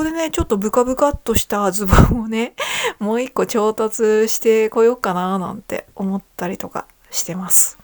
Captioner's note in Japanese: 笑い